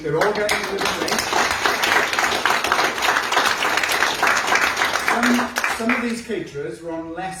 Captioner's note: applause